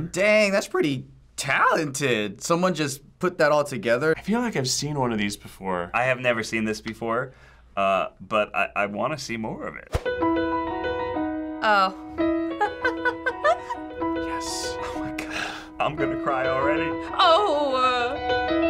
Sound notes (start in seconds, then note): 12.6 laughs